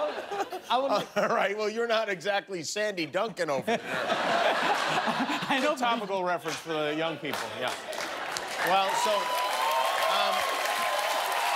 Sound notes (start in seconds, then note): 0.7 laughter